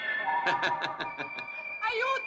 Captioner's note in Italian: urlo